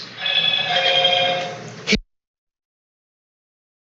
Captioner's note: phone ringing